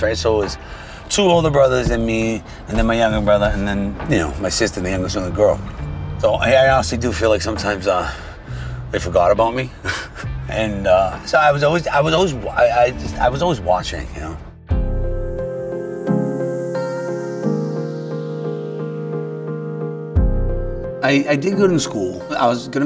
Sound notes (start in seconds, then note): 9.8 chuckles; 14.6 gentle affecting music